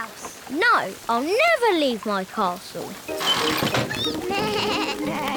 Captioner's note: all giggle